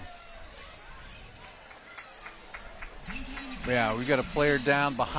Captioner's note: applause